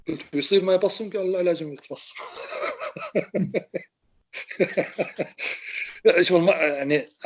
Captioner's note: laughing